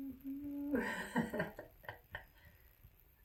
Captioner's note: laughs